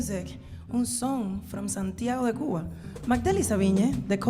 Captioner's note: speaking in Spanish